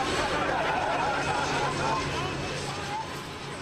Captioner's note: laughing